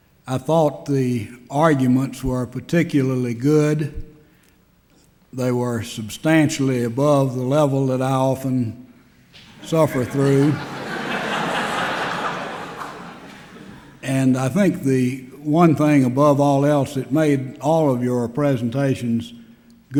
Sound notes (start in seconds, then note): 9.4 laughter